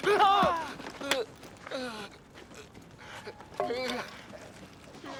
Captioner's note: man yells; man groaning